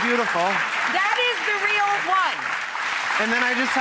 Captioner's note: applause